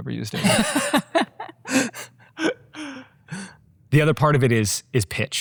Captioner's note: group chuckles